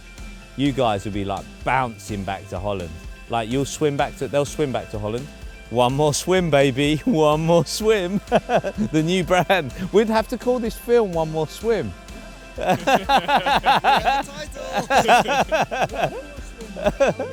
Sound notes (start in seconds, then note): 8.4 laughs